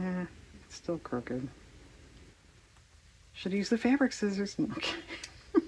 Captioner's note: laughs